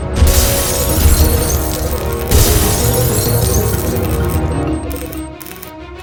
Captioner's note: glass breaking and explosions; instrumental music